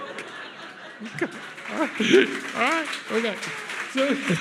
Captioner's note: audience applauds; audience laughs